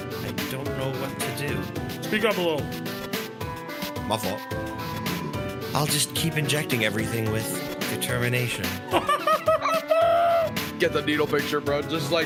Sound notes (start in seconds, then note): 8.9 laughs